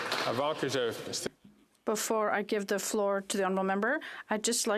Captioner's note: some Applause